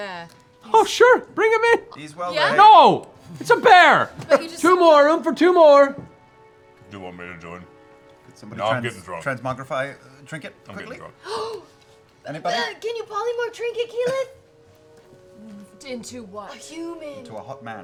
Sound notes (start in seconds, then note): 11.2 gasps